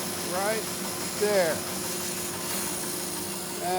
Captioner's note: machine cutting